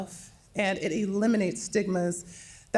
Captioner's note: none